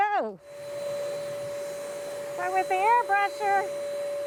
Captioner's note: machine turning on